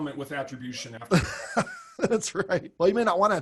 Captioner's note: laughs